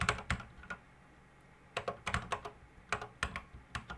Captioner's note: typing on a C64 keyboard